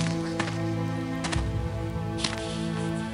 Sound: footsteps

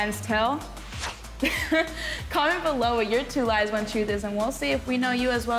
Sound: laughs

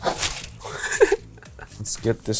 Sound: chuckles

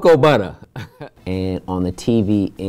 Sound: Larenz chuckles

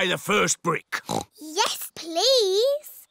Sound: oinks

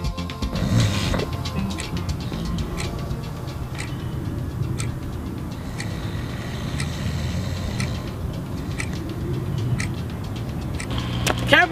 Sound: snoring

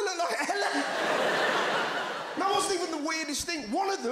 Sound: crowd laughs

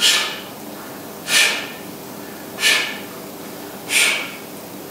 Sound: audible breathing, small exhales with every lift

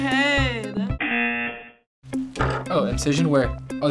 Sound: buzzer rings

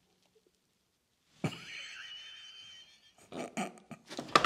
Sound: laughter

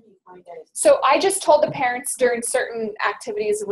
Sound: voiceover

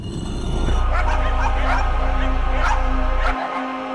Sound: dogs barking

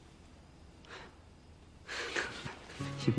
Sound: joel laughs

